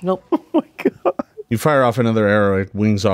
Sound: laughing

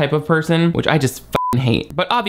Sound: beep

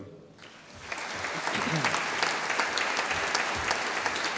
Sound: audience applauding

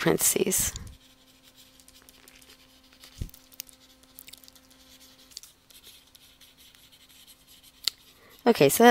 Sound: writing

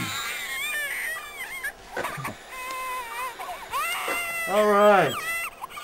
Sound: baby crying

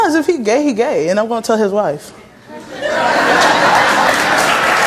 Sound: audience laughs and applauds

